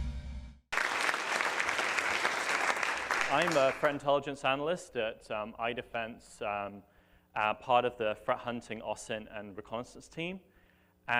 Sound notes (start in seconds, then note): 0.7 applause